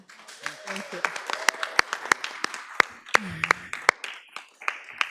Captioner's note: audience applauds